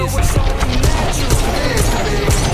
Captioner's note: gun firing